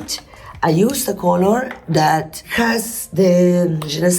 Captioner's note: speaking in foreign language